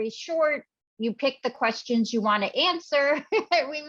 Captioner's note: laughs